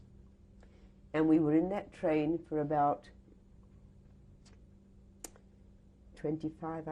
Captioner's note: pauses for 3 seconds